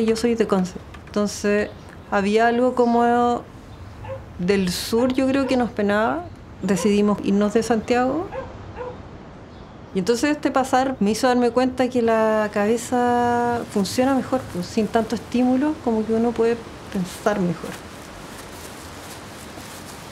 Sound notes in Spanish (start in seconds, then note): 6.7 Ladridos